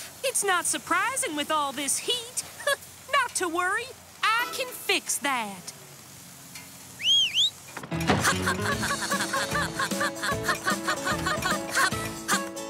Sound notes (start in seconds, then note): 7.0 whistles